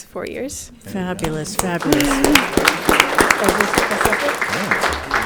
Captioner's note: audience clapping